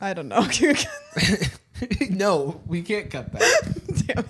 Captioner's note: laughs